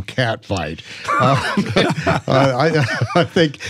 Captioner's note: laughing